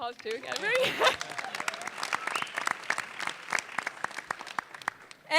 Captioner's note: audience clapping